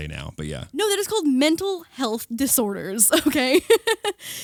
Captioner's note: laughing